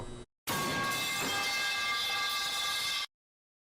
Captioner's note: metal pipe falling sfx